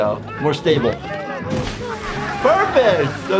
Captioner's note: water splashes